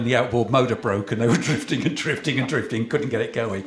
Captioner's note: laughter